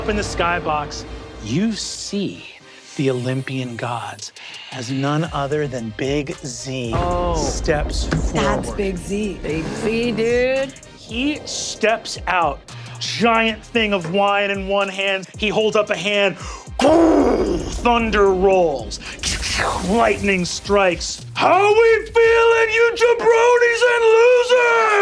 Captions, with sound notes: Up in the sky box, you see the Olympian gods, as none other than Big Z steps- - That's Big Z! - Big Z, dude. - He steps out, giant thing of wine in one hand. He holds up a hand. (mimics thunder booming) Thunder rolls, lighting strikes. "How we feeling, you jabronis and losers?"